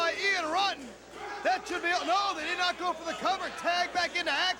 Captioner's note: crowd chatter